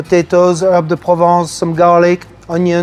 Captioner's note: speaks in French